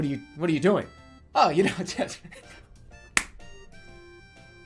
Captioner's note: hand clapping